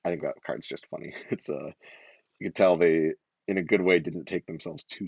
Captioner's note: laughs